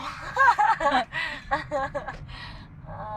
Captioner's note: laughs